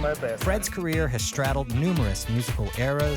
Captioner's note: voiceover